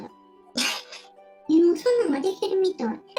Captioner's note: laughs